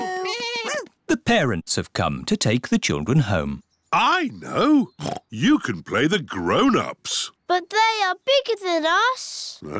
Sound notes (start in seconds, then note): 5.0 oinks